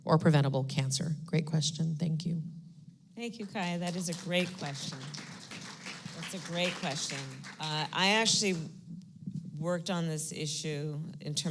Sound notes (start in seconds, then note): 3.5 applause